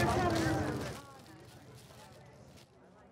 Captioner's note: silence